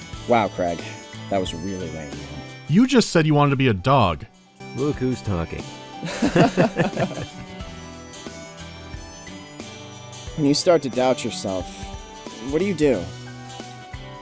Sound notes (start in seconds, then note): 6.0 both laughing